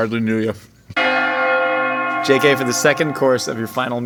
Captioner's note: bell chiming